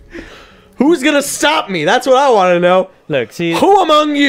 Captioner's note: chuckles